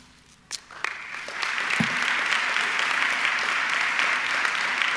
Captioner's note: audience clapping